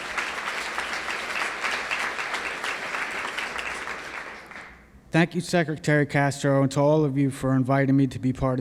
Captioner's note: applause